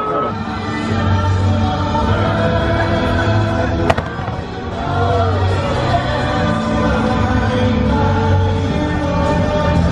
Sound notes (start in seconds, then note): 1.3 crowd cheering and applauding